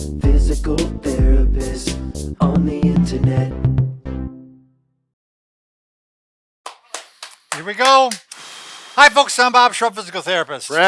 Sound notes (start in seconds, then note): 6.6 clapping